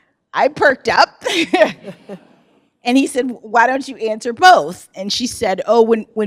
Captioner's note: laughs